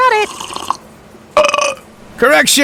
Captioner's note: drinks, and Burps